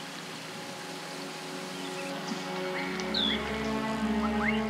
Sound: birds chirping

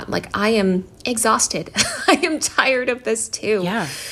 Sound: laughter

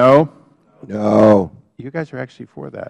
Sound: chorus of noes

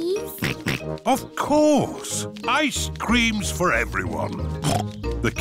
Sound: snorts

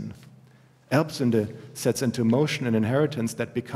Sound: german

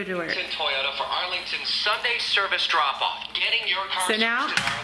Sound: radio broadcast

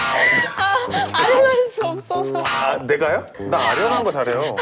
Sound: just cracked up

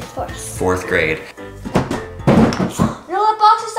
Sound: box slamming on the floor

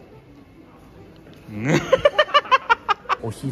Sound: laughs

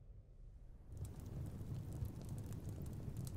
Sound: fire crackling

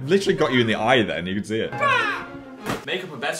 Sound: shouts

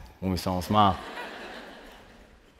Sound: laughter

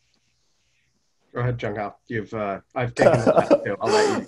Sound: laughs

